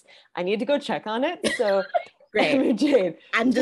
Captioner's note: laughing